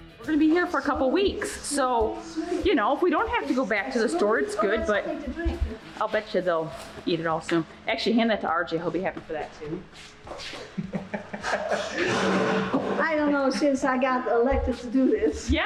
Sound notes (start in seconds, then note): 0.0 upbeat music; 10.6 laughing